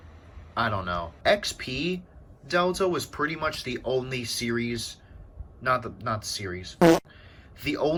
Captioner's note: fart